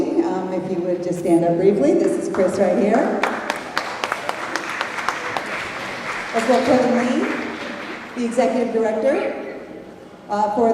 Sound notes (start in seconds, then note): 3.1 applause